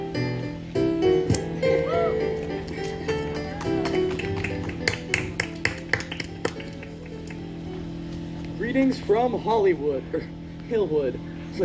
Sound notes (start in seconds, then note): 1.7 light cheering and clapping